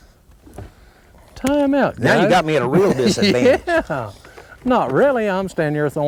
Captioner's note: laughter